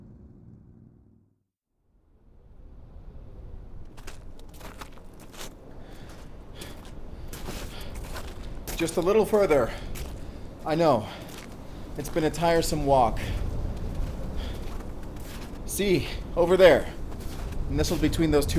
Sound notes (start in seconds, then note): 7.6 huffing